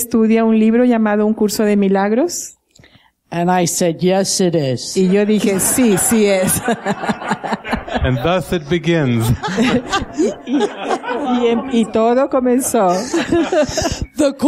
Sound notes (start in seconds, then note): 7.1 laughter